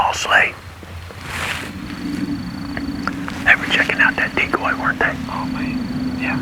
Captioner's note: whispering